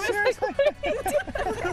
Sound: laughter

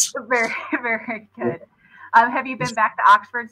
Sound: laughter

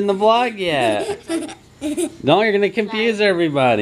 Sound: giggles

